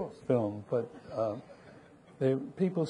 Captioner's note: audience laughing